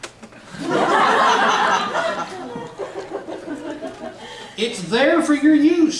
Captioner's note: laughs